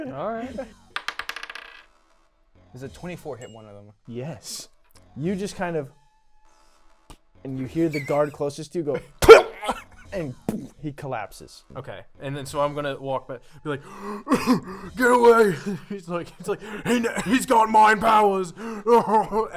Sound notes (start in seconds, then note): 9.8 grunt